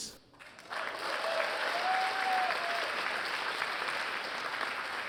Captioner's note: applause, cheering